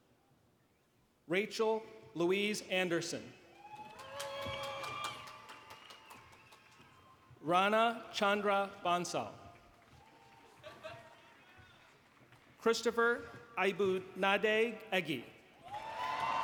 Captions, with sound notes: Rachel Louise Anderson. [APPLAUSE] Rana Chandra Bansal. Christopher Abunad Aggie.